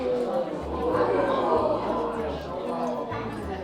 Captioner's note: people exclaim